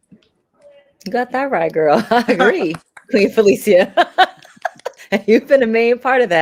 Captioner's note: laughs